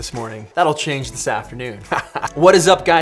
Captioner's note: laughing